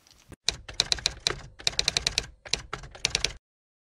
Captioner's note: typewriter typing